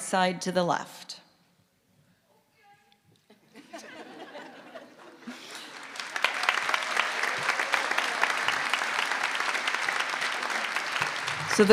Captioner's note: applause